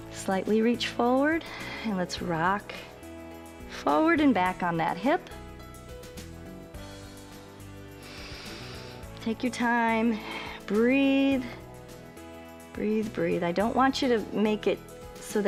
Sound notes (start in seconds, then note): 7.8 inhales